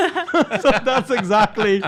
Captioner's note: everyone laughs